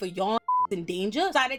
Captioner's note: beep